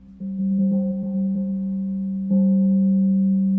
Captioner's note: gong rings